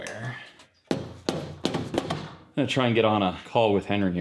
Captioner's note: hammer thumping